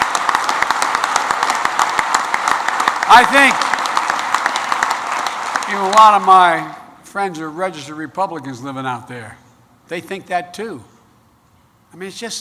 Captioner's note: applause